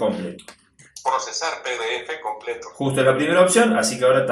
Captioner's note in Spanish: voz del dispositivo